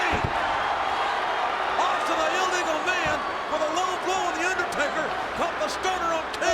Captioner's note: applause